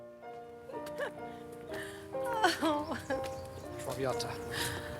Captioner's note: melodic piano music; Bess laughing